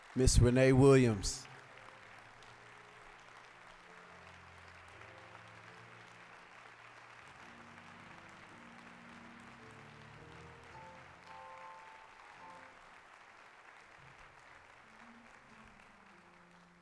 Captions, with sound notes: >> Ms. Renee Williams. (applause)